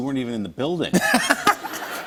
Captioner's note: laughter